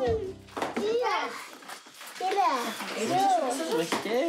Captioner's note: boys chatter